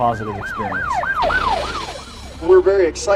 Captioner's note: sirens wailing